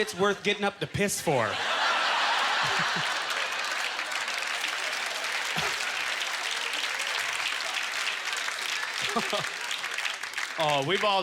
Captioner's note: audience laughter; applause